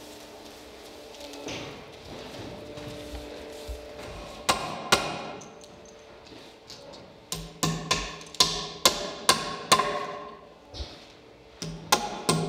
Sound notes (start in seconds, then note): 4.4 hammering